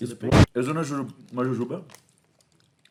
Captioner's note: eating noises